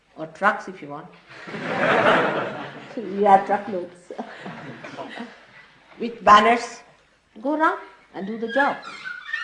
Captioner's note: laughter